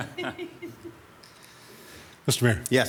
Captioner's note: attendees chuckle